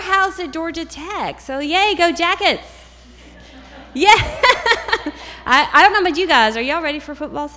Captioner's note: laughter